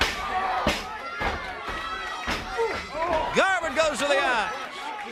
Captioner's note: crowd chatter